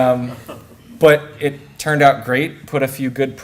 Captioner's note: laughter